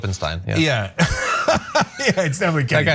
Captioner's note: laugh